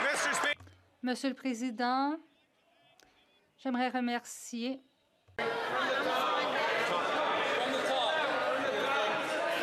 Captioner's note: some Applause